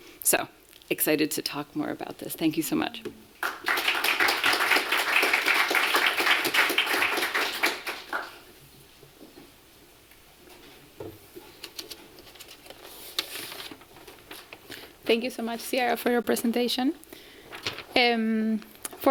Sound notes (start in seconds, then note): 3.4 applause